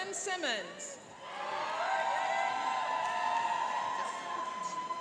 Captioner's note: cheering and applauding